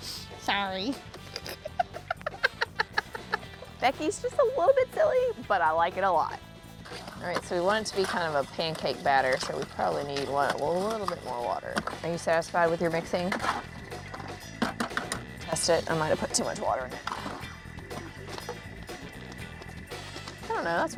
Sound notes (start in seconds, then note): 1.2 both laugh